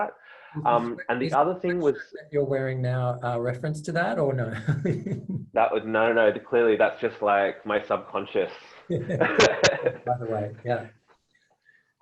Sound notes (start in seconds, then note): 4.5 laughter